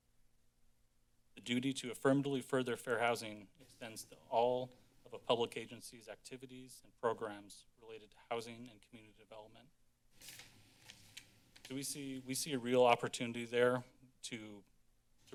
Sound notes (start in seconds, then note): 10.2 paper rustling